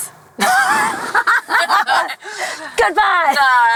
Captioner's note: laughter